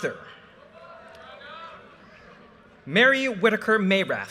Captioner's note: audience cheers and applause